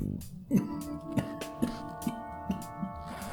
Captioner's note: coughing